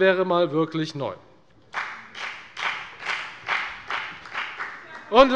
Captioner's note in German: Beifall bei der FDP